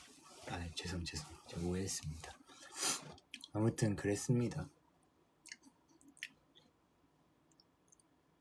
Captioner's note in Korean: 콧방귀